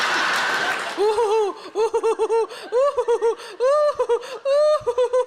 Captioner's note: audience laughs; Sarah cackles